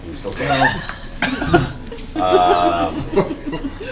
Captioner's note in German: Gelächter